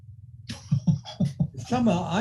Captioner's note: laughing